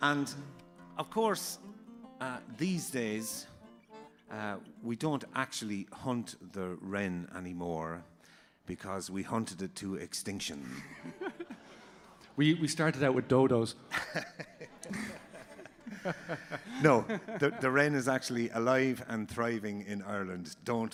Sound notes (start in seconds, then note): 13.9 laughs